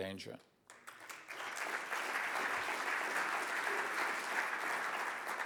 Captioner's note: audience applauds